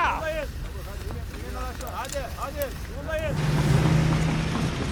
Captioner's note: speaking in a foreign language